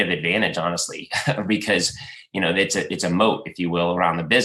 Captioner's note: laughs